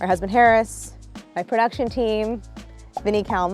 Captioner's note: none